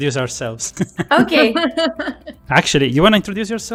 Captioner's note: laughs